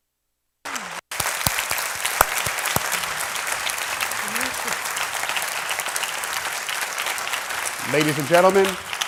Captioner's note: applause